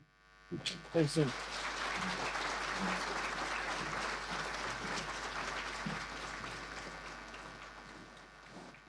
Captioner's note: applause